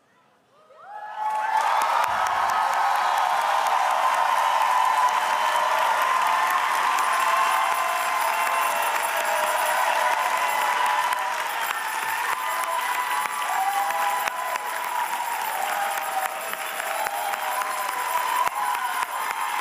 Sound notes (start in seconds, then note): 2.4 cheers and applause